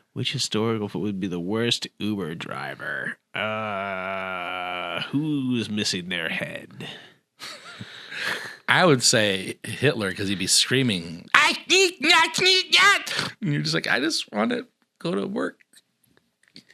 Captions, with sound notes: Which historical thought would be the worst driver? Who's missing their head? I would say Hitler because he'd be screaming, (in German) “Ich hasse es, analverkehr zu haben!” It’s like I just want it go to work.